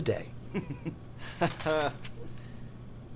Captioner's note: laughing